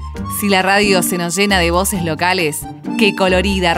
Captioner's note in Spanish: Voz en off